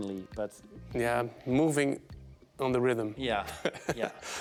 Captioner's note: laughing